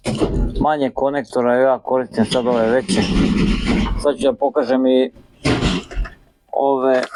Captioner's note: coughs